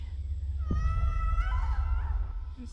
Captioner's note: Mia screams